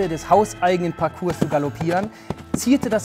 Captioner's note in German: Hufgetrampel